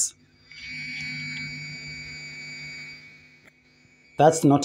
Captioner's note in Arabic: طنين عالي النبرة